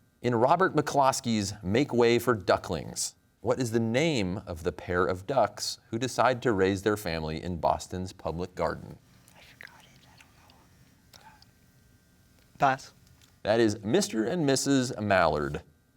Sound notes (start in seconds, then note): 9.4 whispers